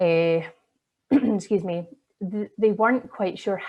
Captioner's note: coughs